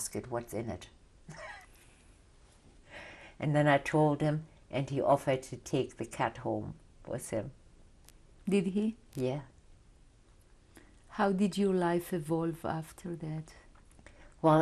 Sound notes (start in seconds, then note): 1.3 laughs